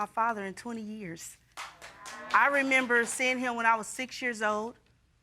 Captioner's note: audience applauding